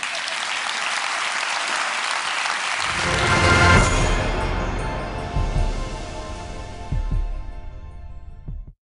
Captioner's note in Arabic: تصفيق